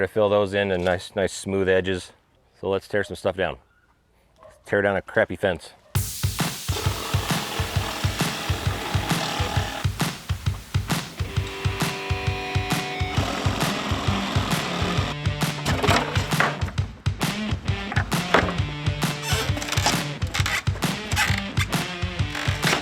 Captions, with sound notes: to fill those in nice, nice smooth edges. So let's tear some stuff down. Tear down a crappy fence. (upbeat music) (electric handsaw whirring) (wood planks clattering) (wood planks creaking)